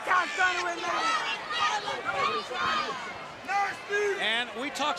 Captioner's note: crowd chatter